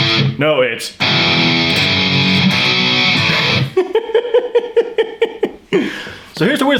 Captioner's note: laughs